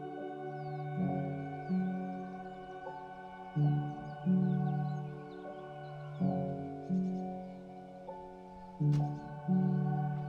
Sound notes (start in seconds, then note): 0.6 birds chirping; 3.6 poignant music continues to play; 6.5 birds chirping; 10.1 poignant music continues to play